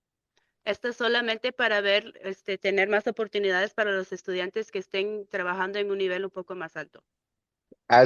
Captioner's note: speaking in Spanish